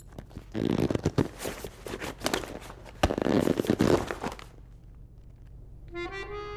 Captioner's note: leather squeaking